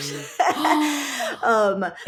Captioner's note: laughing